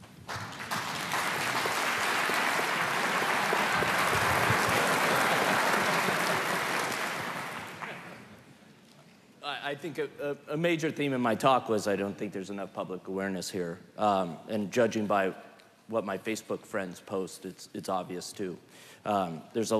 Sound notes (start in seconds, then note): 0.0 applause; 5.6 laughter